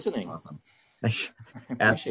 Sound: laughing

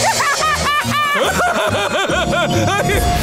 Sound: laughing

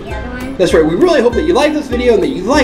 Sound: voiceover

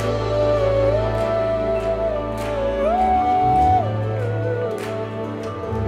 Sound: ooing

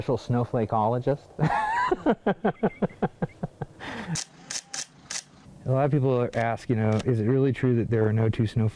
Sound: laughing

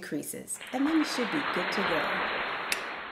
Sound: applause

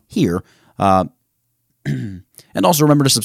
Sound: clears throat

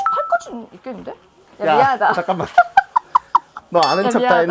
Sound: laugh

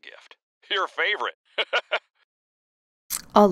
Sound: laughs

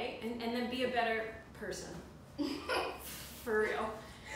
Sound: laugh

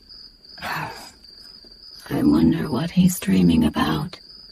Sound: scoffs

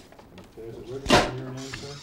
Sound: bang

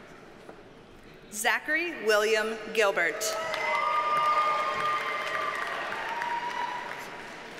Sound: audience cheers and applauds

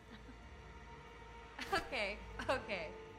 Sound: chuckling

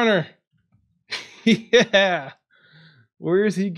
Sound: laughs

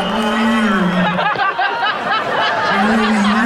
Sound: laughing

